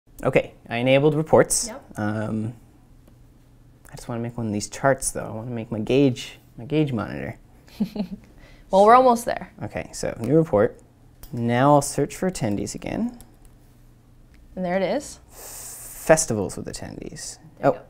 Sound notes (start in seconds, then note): 7.7 laugh